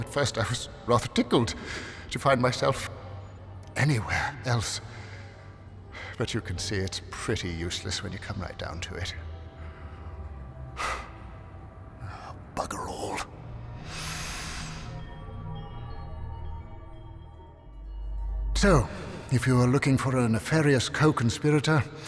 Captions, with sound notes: at first I was rather tickled to find myself anywhere else. But you can see it's pretty useless when you come right down to it. (sighs) Bugger all. (chimes tinkling) So if you are looking for a nefarious co-conspirator